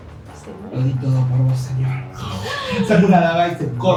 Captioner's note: gurgling sounds